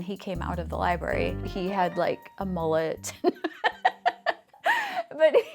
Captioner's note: laughing